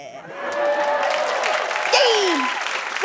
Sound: cheers and applause

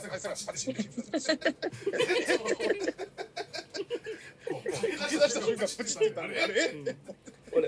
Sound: laughs

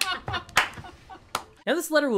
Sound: laughter

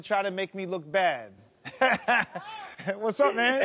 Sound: laughs

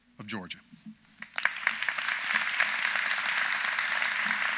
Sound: audience applauds

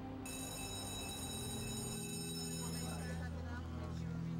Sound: bell rings

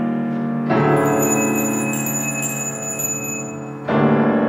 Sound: bell ringing

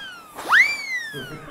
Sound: blowing

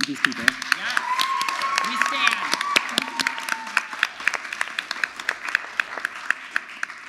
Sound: audience applauds

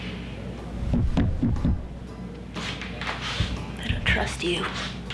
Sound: tapping

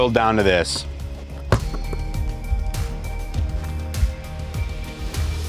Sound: ball bounces

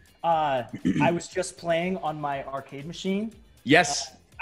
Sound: cough

